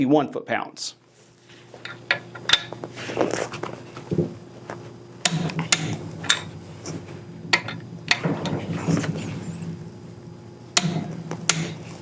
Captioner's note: sound of metal on metal & click of torque wrench